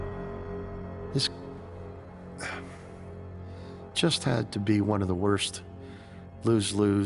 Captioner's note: sighing